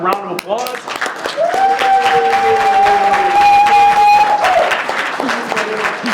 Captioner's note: audience applauding and yelling